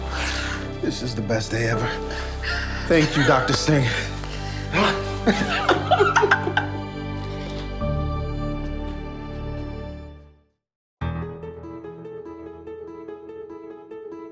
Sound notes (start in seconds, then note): 0.0 sighs; 4.7 both laughing